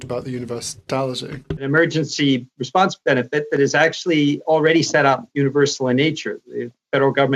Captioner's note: speaking French